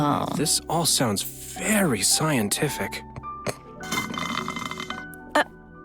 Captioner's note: slurps milk tea